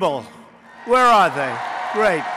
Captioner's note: applause